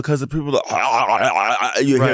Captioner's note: imitates choking